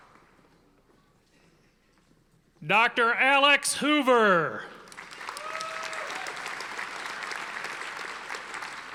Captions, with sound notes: Dr. Alex Hoover. (audience applauding)